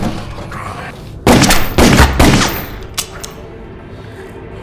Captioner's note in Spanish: disparo de arma